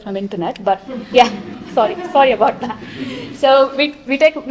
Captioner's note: chuckling